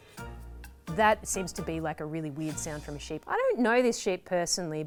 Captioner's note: none